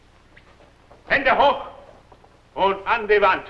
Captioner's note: foreign language